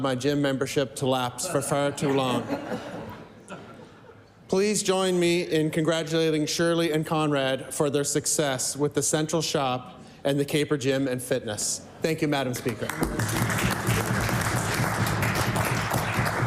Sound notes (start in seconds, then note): 5.2 laughter; 15.9 applause